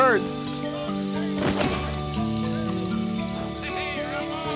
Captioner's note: body thumps